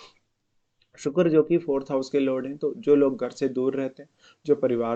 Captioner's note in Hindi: नाक से की जाने वाली आवाज़